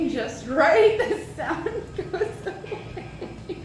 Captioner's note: laughing